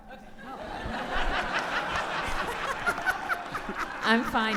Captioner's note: audience laughing